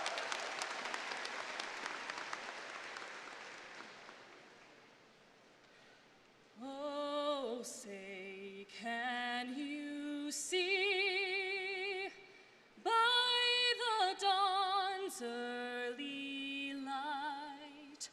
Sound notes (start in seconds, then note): 5.7 applause